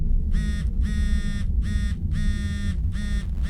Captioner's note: phone buzzes